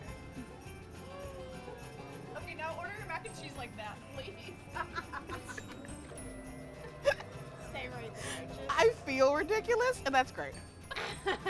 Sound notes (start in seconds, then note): 4.7 laughs